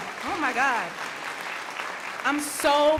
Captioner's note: crowd applauding